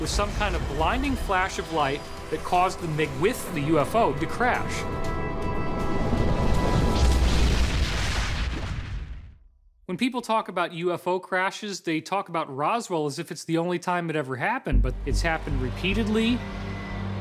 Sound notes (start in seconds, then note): 5.9 explosion